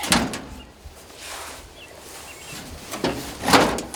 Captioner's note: metal clanking